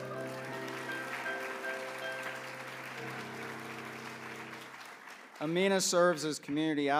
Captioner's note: applause